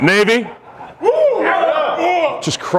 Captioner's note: crowd cheers